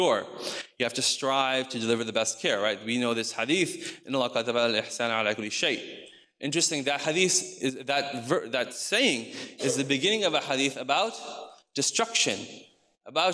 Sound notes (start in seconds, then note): 3.9 speaks in foreign language